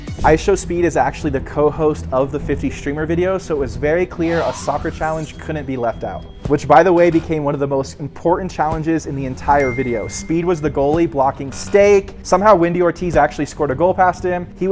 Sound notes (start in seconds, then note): 0.0 dance music; 9.5 bell dings; 11.7 effect buzzes